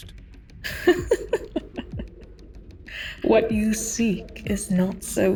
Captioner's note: laughter